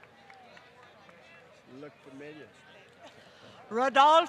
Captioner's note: applause